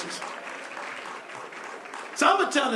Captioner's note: applause